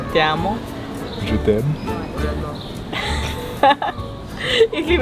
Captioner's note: speaks Spanish; speaks French; laughs, speaks German